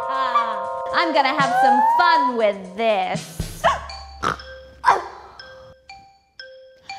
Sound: evil laugh; Eury grunts

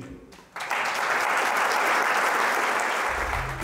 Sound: applause

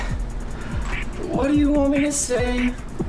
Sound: in robotic voice

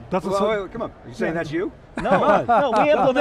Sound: laughs

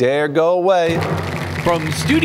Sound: applause

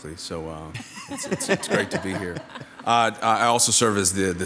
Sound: laughing

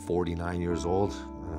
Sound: speaking korean back

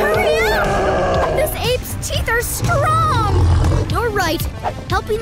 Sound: gorilla roaring; gorilla growling

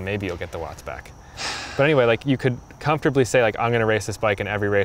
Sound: sighs

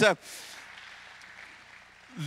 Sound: applause

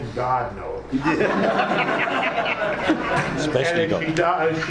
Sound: laughing

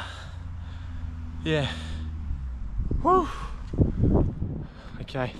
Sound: exhales

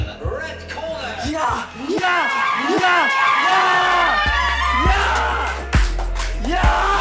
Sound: cheers

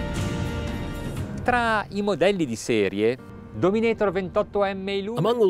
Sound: speaking in Italian

